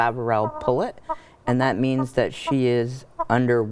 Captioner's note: Omelette clucking